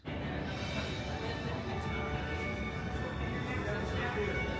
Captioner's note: crowd murmuring; faint music